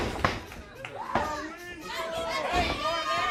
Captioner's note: crowd cheering